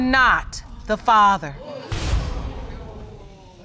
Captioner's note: audience exclaiming